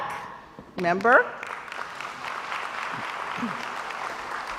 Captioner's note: crowd applauds